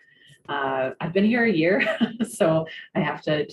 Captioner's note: laughter